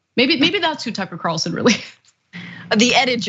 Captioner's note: laugh